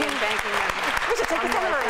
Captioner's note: applause